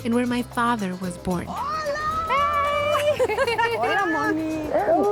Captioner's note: speaking Spanish